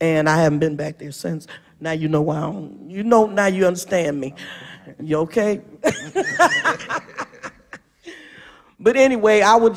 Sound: laughter

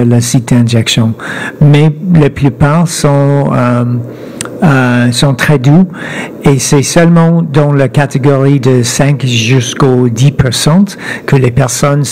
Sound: speaking French

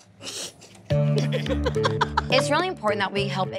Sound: laughs

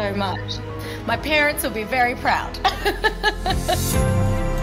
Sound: laughs; upbeat music

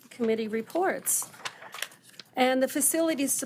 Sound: page fluttering

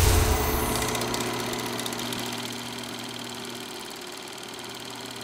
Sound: projector crackling

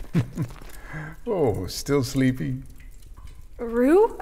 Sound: chuckle

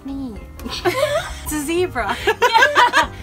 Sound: both laugh; laughs

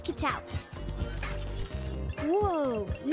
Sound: beeping

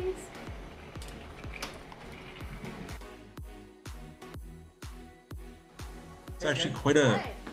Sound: upbeat instrumental music; trolley wheels clanging

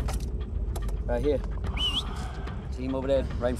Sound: whistles

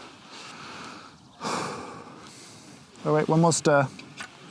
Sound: sighs

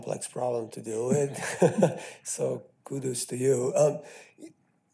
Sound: chuckles

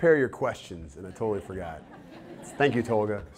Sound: audience laughter

